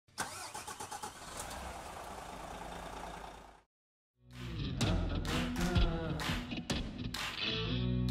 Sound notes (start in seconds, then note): 0.2 engine revving; 4.3 upbeat music